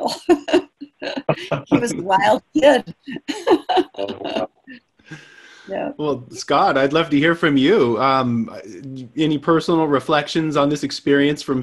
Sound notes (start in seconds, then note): 0.0 laughing; 3.5 speaking away from mic